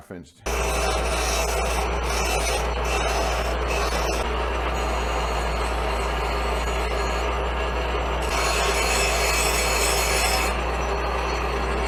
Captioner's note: grinding noise